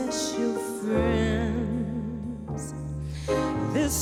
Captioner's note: exhales